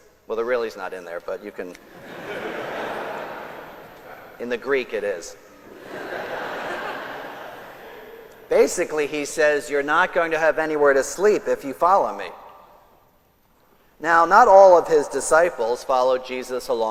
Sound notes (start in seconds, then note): 1.8 congregation laughs